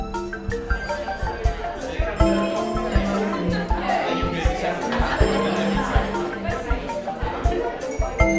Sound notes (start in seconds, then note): 0.7 people chatting